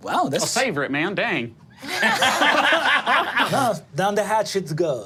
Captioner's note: group laughing